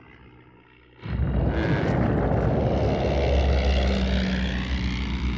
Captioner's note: camels groaning